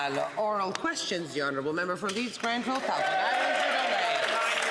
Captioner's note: some Applause